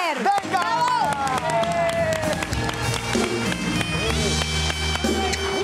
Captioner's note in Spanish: Aplausos